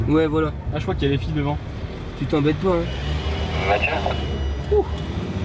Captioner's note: radio